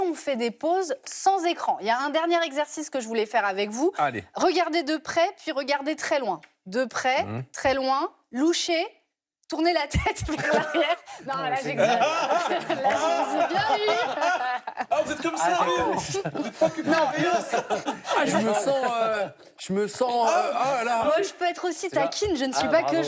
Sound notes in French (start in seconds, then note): 10.4 rires; 18.2 rires